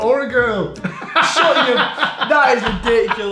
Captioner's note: laughing